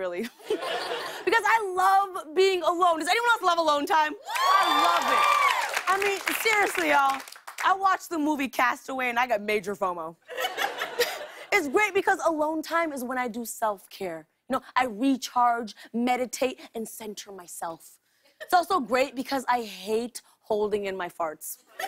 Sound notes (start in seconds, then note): 4.2 cheers and applause